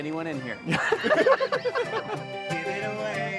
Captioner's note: laughter